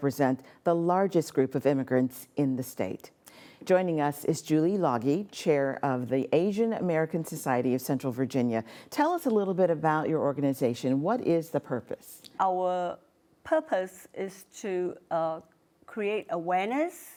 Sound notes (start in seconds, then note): none